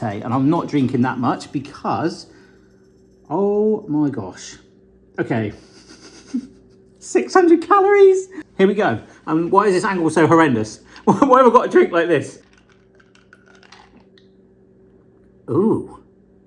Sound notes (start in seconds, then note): 5.6 chuckling; 12.3 ice clinking